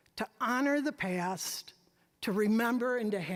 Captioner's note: none